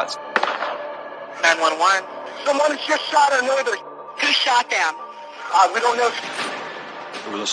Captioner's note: gunshot